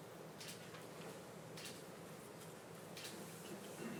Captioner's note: camera shutter clicking